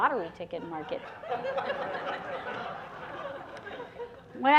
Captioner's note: laughter